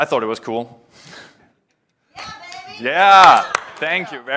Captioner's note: applause